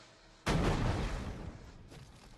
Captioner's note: explosions